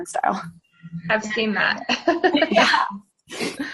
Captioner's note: chuckling